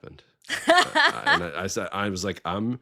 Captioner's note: laughing